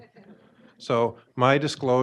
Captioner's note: audience laughing